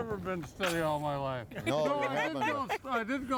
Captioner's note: all laughing